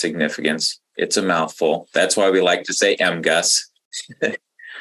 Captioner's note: chuckles